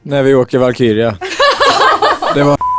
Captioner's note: laugh